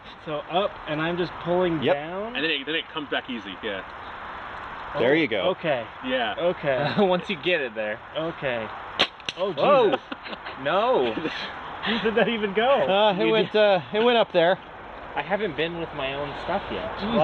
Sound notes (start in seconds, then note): 6.7 laughs; 8.9 trigger release clicks; 9.6 laughter; 12.0 laughing